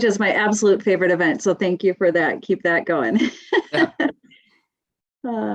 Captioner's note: laughs